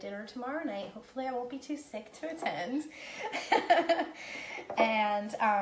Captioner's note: laughing